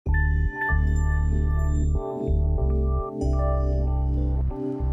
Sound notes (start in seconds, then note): 0.1 chiming; 2.0 light music